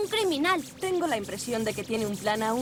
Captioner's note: zapping